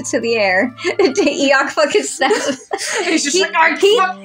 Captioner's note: chuckle; giggling; laugh